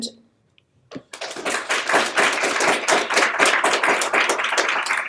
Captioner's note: people clapping